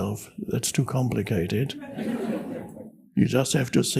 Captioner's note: audience laughs